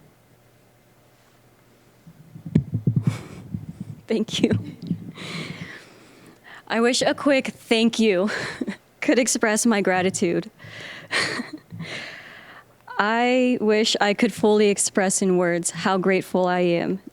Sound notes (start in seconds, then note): 5.3 chuckling; 10.7 chuckling